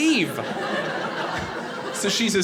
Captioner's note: audience laughing